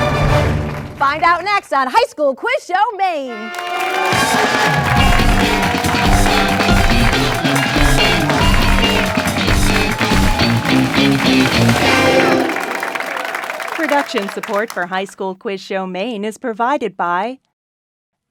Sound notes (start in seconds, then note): 4.0 crowd clapping; 4.7 upbeat rock music